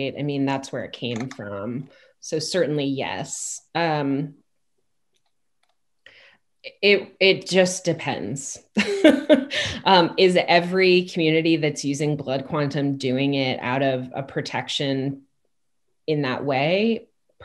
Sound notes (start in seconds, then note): 8.8 chuckles